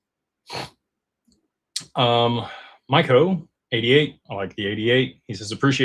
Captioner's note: snorts